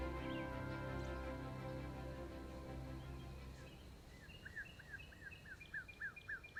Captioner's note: relaxing music; birds chirping